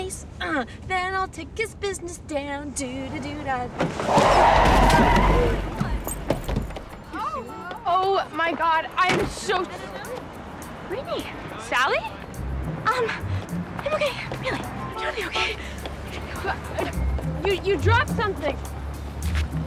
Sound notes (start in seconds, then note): 2.8 brakes squealing